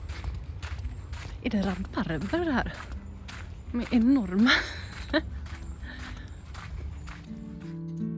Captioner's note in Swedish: skratt